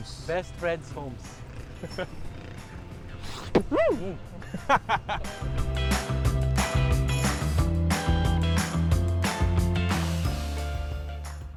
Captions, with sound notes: - Bestfriends Homes. (sniffs) (laughs)